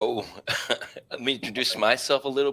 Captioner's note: laughter